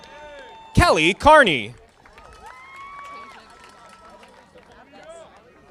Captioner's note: audience applauding